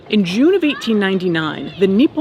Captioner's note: none